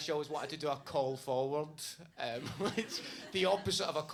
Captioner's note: laughs